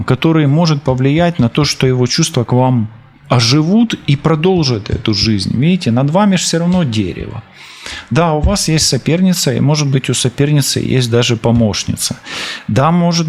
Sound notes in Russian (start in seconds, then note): 7.6 фыркает